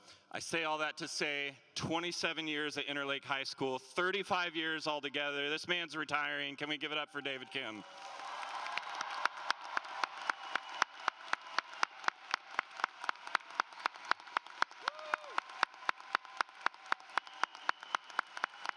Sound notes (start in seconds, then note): 7.8 applause